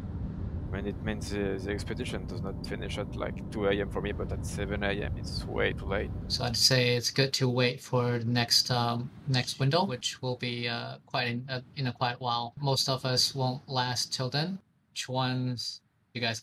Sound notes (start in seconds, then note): 6.4 on the radio